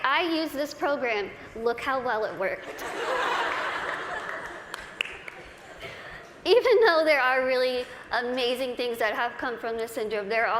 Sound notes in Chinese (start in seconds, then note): 2.8 大笑